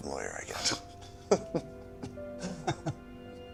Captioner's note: laughing